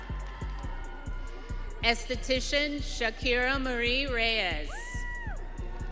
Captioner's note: audience cheering